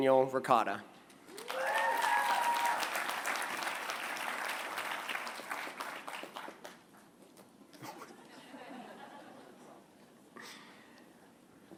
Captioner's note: applause